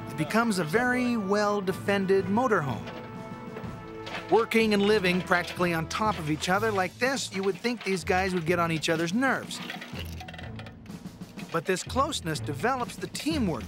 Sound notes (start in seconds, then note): none